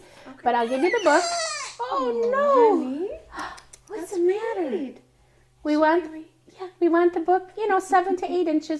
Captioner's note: baby cries